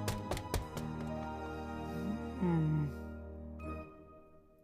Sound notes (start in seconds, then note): 1.9 sighs